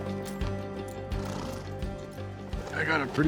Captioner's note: horse blusters